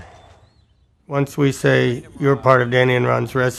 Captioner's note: dogs barking